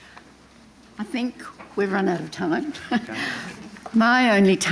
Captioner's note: chuckles